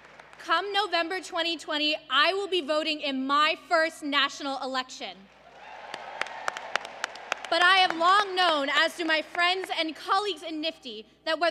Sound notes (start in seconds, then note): 5.3 applause